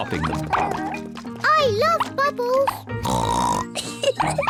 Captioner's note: oinks and giggles